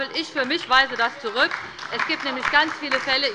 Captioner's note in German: Beifall bei der LINKEN